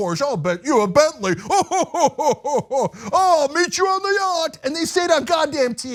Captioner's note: laugh